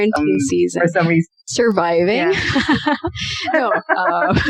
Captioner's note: laughter